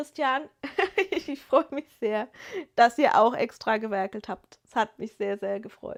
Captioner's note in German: gelächter